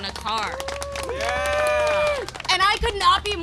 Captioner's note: applause and cheering